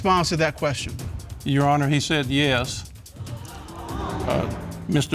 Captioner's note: audience gasping